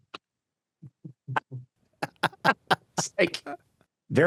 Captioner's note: both laughing